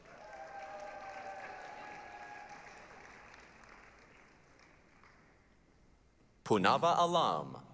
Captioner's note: applause, cheering